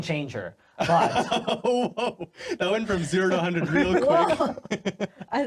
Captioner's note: laughing